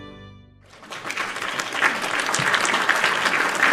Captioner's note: applause